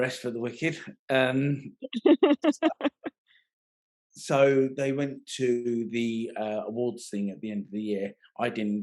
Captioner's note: laughing